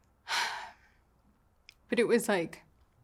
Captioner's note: sighs